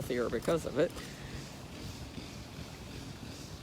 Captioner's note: machine noise